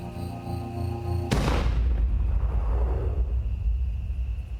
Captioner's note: gun fires